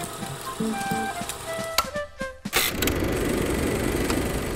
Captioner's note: projector clicking; upbeat music